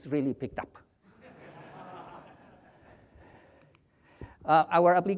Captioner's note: audience laughs